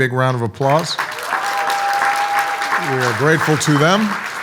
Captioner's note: audience applauds